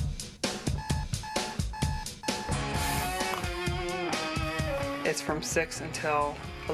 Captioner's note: alarm beeping